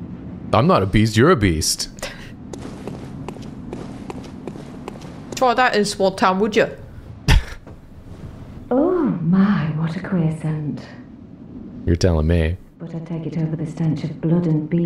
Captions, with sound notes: I'm not a beast, you're a beast. (thick cockney accent) Try that in small town, would ya? You're telling me.